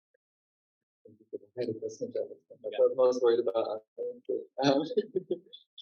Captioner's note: laughs